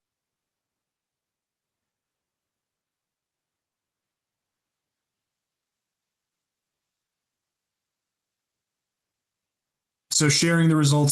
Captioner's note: poll in progress - no audio